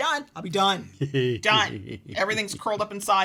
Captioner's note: chuckles